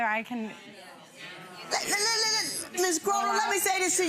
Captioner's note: audience murmurs